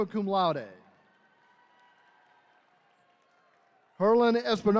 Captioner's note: attendees cheering